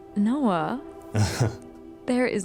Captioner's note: Noah chuckling